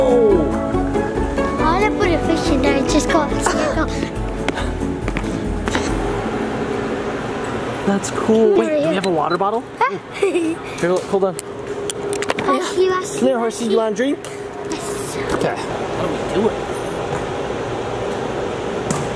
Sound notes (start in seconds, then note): 4.9 footsteps stomping; 9.8 giggles